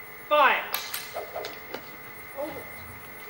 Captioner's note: arrows whoosh